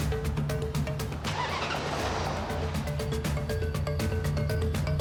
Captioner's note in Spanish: Ruido al encender el motor